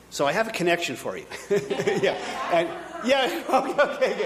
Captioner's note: audience laughing